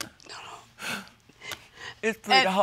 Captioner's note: sobs